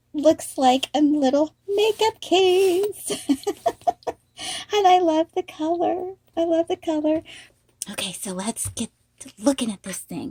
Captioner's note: laughing